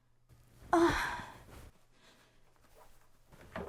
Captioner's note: moans